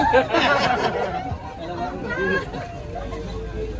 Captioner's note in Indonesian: tertawa